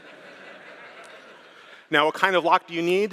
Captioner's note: laughter